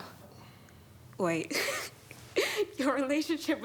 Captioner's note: laughs